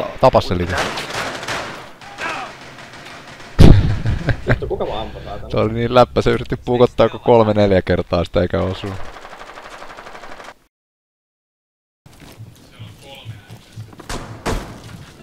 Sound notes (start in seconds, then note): 3.9 laughing